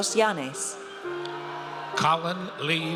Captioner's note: audience cheers